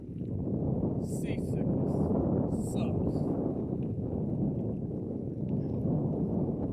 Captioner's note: wind blowing